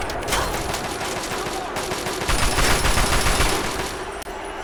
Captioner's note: The sound of white-hot lead streaking across the Hole